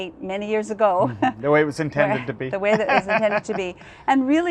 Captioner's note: laughs